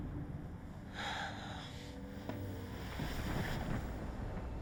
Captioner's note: Wolf sighing